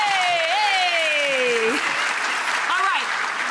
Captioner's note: audience applauses